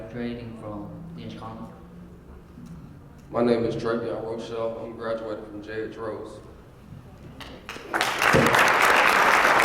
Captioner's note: applause